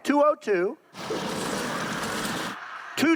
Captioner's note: blender whirring